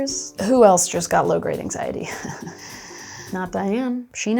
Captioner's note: laughing